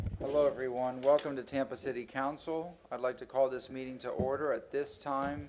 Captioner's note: sounding gavel